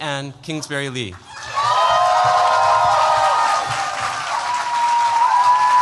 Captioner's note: cheers, applause